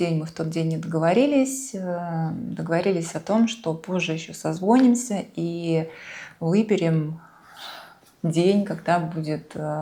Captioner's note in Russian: вздыхает